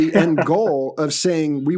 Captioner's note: laughs